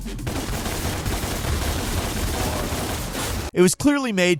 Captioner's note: guns shooting